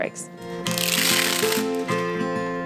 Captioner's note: plastic peeling